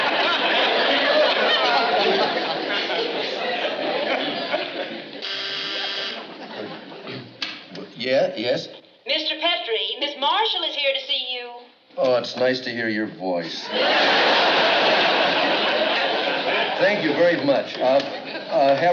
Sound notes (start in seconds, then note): 5.2 intercom buzzes